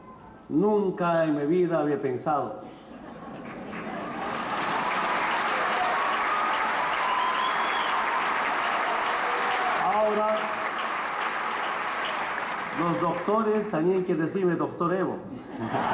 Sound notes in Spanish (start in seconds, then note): 3.6 Aplausos